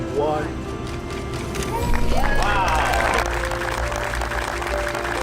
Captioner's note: audience applauding